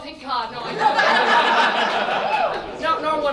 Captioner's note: audience laughs